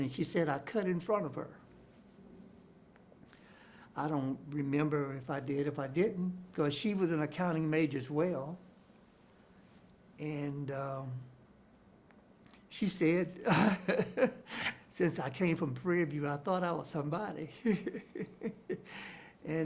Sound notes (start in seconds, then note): 13.4 chuckles